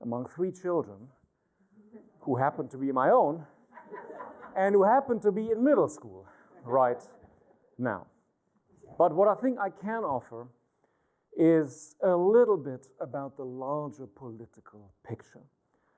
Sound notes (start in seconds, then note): 3.6 laughter